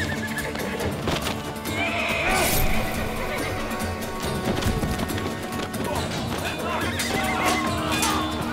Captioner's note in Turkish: Dövüş sesleri